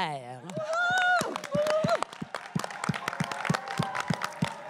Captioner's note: cris et applaudissements